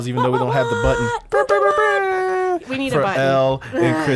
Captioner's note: group imitates blow horn